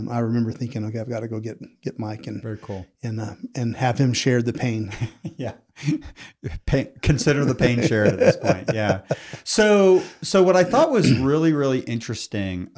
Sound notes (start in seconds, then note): 4.8 laughs; 7.0 laughs